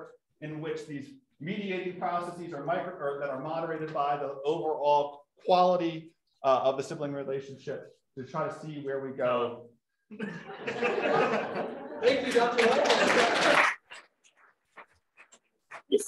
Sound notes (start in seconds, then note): 10.0 laughter; 12.0 applause